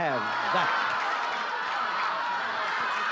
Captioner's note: audience shouting